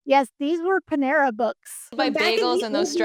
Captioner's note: laughs